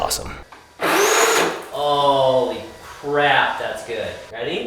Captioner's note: engine whirring